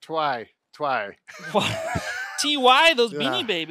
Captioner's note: laughs